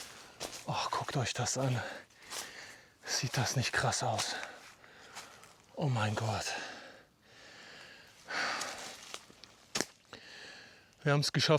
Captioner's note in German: seufzt